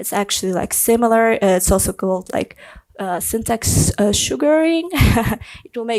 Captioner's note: laughs